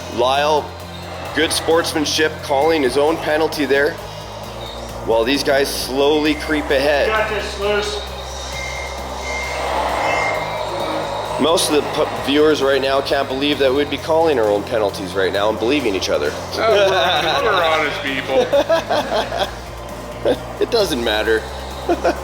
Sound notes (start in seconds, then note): 8.7 truck beeping; 16.9 all laughing